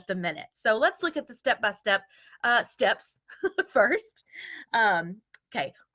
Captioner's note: laughter